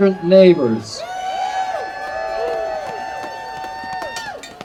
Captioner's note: audience cheering